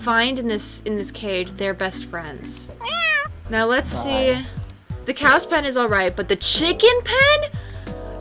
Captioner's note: meow